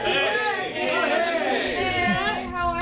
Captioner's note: exclamations of greeting